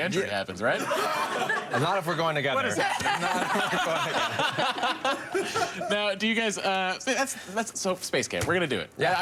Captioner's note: laughter